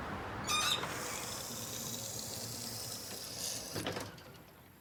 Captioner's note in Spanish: ruido al bajar escalerilla